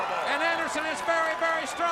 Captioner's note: crowd cheering